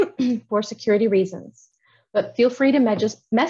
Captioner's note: clears throat